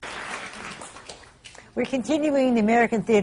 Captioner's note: applause